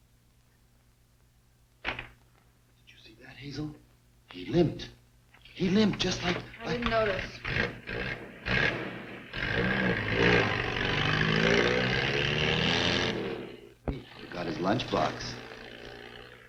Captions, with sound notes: (door closes) Did you see that Hazel? He limped, he limped just like, I-- - I didn't notice. (car engine revving) - He forgot his lunch box.